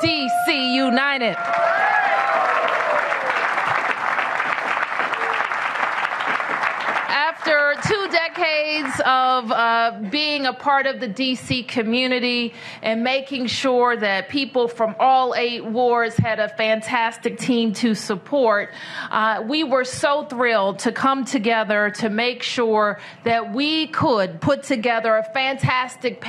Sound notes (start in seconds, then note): 9.3 applause